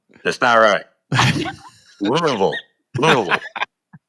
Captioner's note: chuckles